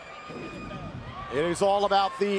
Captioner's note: crowd chatter